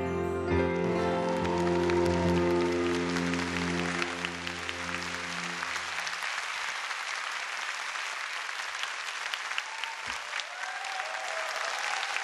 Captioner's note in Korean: 박수와 환호